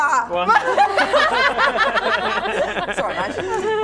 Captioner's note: laughing